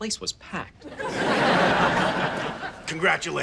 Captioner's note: audience laughs